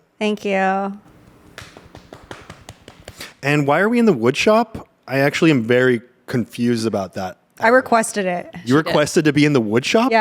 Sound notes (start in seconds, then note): 1.2 everyone applauds